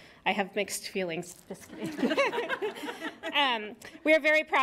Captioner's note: laughter